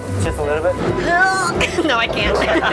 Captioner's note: grunts